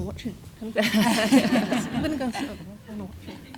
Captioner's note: all laugh